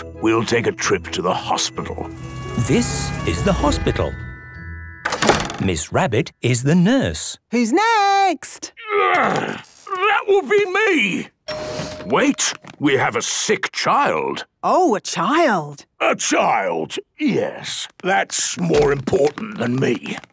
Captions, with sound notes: we'll take a trip to the hospital. - (siren sounding) - This is the hospital. - Miss Rabbit is the nurse. - Who's next? - Groan! That would be me. - (door dings open) - Wait! We have a sick child! - Oh! A child! - A child, yes... That's more important than me.